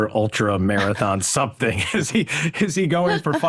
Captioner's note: laughs